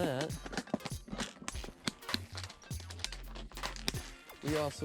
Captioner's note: box rattles